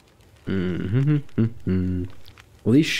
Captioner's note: humming